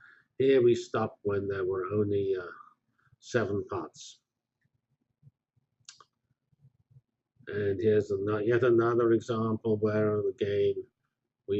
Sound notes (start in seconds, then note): 4.1 pause